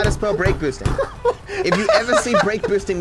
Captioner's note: laughs